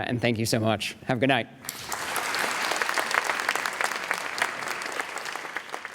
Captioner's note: audience applauding